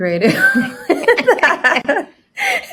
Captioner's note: laughing